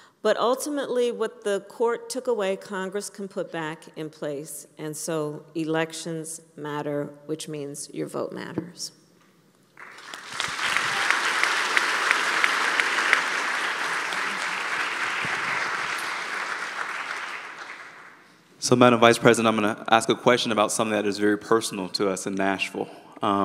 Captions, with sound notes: But, ultimately, what the court took away, Congress can put back in place. And so, elections matter, which means your vote matters. (Applause.) State Representative Jones: So, Madam Vice President, I'm going to ask a question about something that is very personal to us in Nashville.